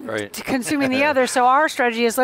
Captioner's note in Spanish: risas